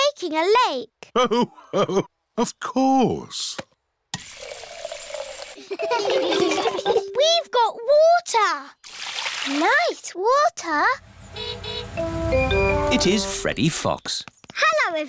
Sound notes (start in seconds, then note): 5.6 laughter; 11.1 horn honking